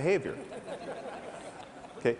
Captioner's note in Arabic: ضحك